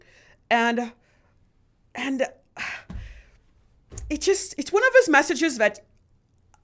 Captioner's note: sighs